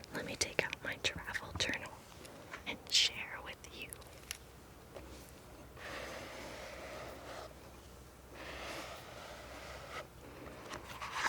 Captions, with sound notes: Let me take out my travel journal and share with you. (scraping)